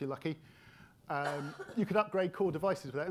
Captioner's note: attendee coughing